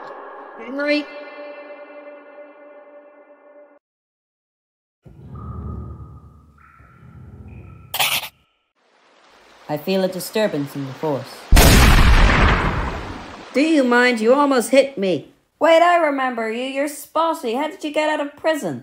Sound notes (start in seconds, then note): 11.5 bam!!